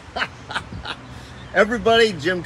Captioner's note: hefty chortles